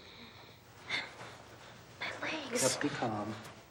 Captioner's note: gasps